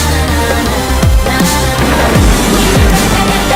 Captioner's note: explosion